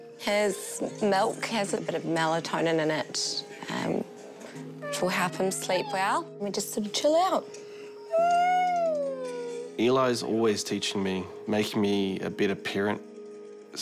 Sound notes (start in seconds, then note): 4.8 squeals; 8.0 yawns